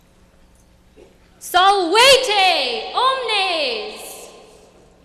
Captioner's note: latin speech